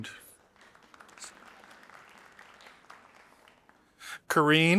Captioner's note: audience applauding